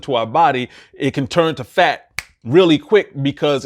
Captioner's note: fingers snaps